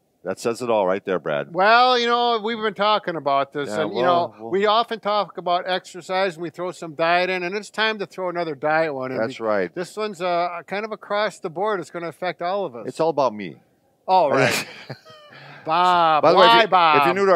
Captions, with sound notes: That says it all right there Brad. - Well, you know, we've been talking about this. You know, we often talk about exercise. We throw some diet in and it's time to throw another diet one in there. - That's right. - This one's kind of across the board. It's going to affect all of us. - It's all about me. (laughing) - Oh right. Bob, why Bob?